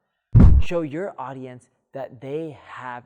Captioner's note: air whooshing